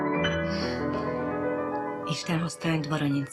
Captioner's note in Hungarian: Carolyne kis nevetése